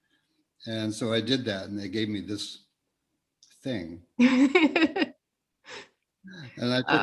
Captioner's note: laughs